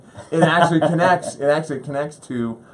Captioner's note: laughs